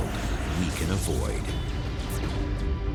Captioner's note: fire attack sound